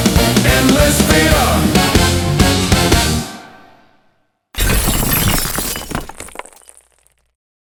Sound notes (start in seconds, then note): 4.6 explosion